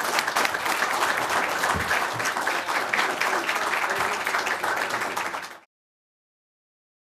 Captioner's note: applause